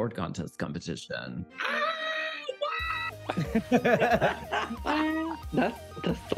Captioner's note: screams; all laughing